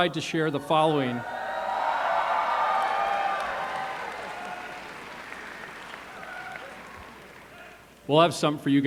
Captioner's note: cheers